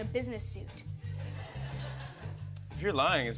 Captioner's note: laughter